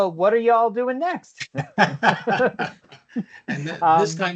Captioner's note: laughter